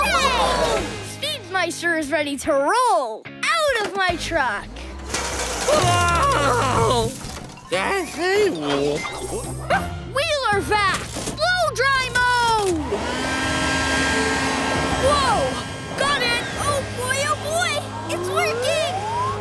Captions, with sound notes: [cheering] Speedmeister is ready to roll... out of my truck! [screaming] [groaning] Ruff, wheeler vac, blow dry mode! Whoa, got it, oh boy oh boy, it's working!